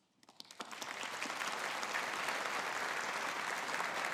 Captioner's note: audience applauding